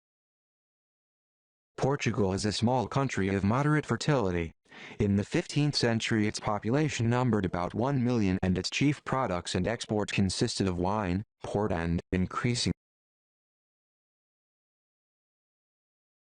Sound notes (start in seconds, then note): 2.0 computer reading the yellow highlighted text